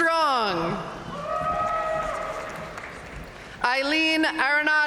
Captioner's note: audience cheering and applauding